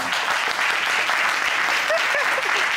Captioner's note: audience applauding